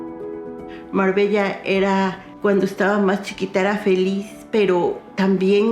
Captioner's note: speaking in Spanish